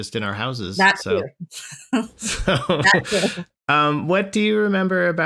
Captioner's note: laughter